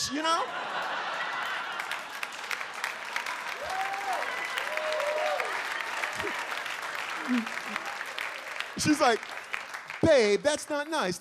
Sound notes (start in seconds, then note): 0.2 audience laughs; 1.5 audience applauds; 3.5 audience cheers